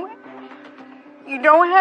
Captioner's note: choking up